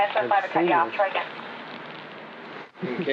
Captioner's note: chatter over police radio